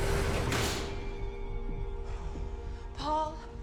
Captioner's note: tense eerie music intensifies; door clicks